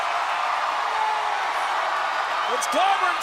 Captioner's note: crowd cheers